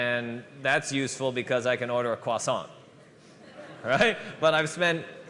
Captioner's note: laughter